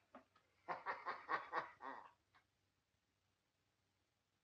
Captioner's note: Joe chuckles